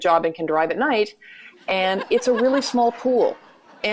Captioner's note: laughter